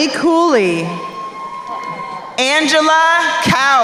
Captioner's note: crowd cheering